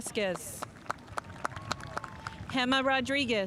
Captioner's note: spectators applauding